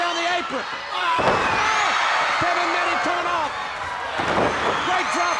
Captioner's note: body thudding